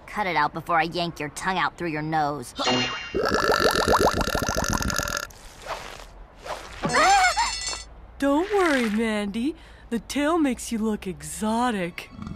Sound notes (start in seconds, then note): 3.1 belching